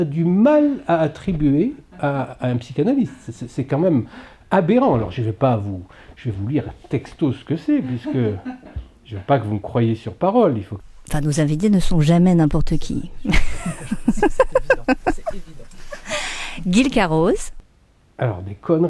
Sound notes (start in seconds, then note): 13.3 laughs